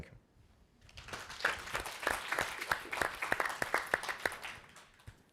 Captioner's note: audience applauding